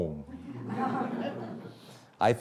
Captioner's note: audience laughing